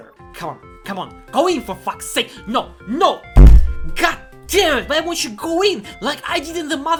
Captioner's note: slams desk